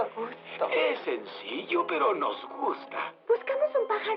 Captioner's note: chuckles